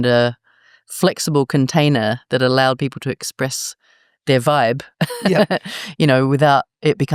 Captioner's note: laugh